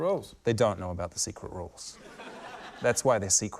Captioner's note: laughter